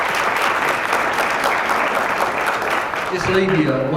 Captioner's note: applause